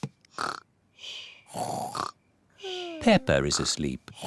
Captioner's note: snores